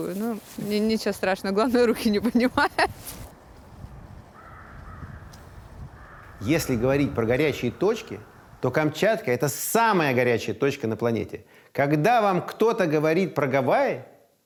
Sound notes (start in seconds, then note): 2.0 laughs; 3.5 birds cawing